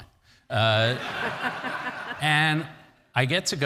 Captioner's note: audience laughs